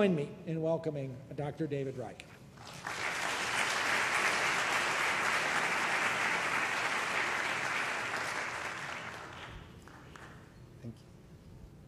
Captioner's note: applause